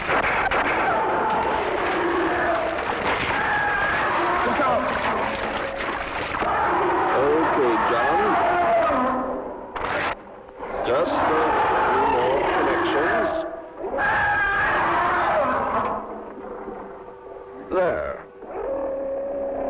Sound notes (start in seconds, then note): 0.0 gunshots; 8.5 monsters roaring